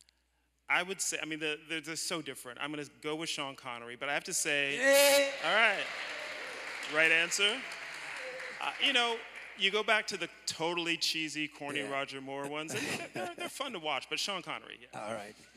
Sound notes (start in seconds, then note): 4.8 applause